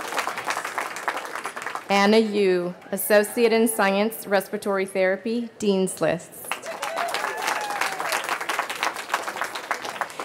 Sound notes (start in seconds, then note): 0.0 cheering; 6.5 cheering